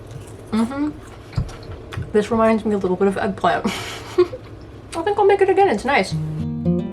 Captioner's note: chuckles